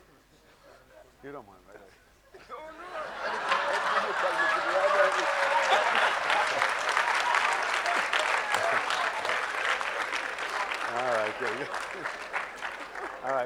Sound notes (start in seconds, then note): 3.3 audience laughing; 4.5 audience clapping